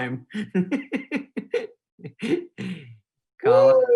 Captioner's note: laughing